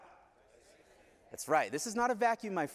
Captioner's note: crowd responding